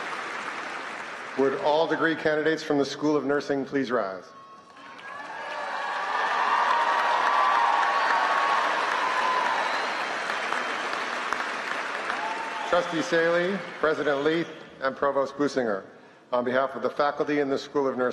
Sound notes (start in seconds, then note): 0.0 applause; 4.6 applause